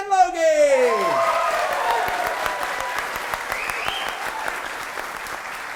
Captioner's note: audience applause